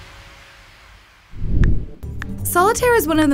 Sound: upbeat music; whooshing

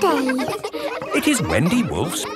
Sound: kids laughing

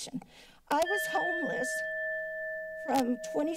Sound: alarm sound

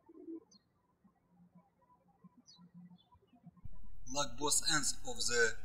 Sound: birds chirping

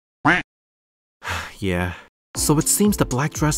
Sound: sigh

